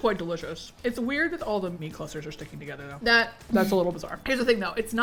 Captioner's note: laughs